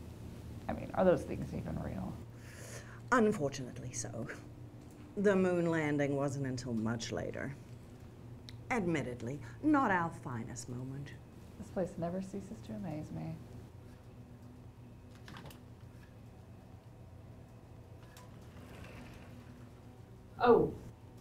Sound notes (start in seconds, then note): 17.9 door slides open